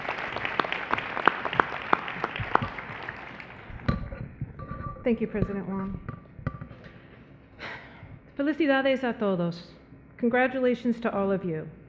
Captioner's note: applause; speaking in foreign language